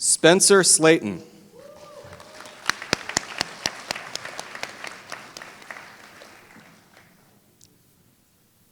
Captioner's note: applause